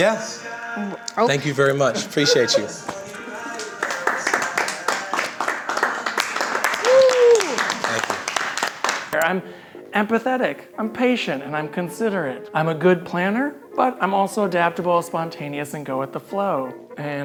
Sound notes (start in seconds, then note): 2.8 people clapping